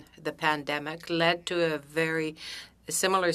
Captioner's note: speaking French